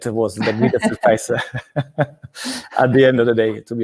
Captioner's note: laughs